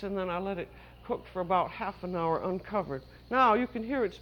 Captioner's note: hissing